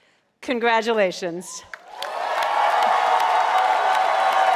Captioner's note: crowd cheering